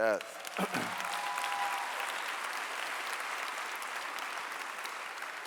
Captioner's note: clapping and cheering